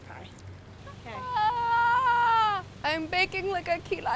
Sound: yelling

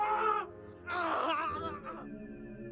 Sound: squelching

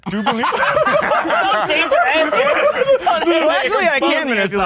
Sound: group laughing

